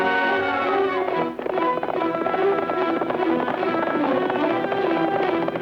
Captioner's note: horse hooves clattering